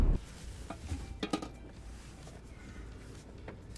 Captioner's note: costumer rustling